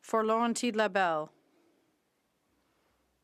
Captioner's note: speaking French